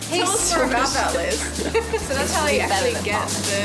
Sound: laughing

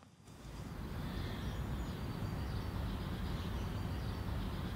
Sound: birds tweeting

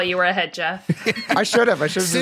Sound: laughing

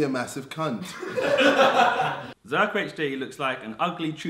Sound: audience laughs

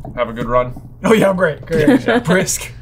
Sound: laughing

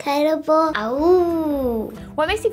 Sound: girl howls like a wolf

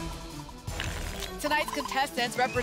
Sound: shuffling sound

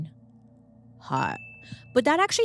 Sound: bell rings

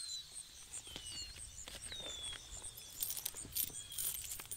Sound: insects chirring; birds twittering

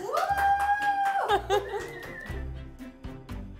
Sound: laughing; whistling; bright piano music

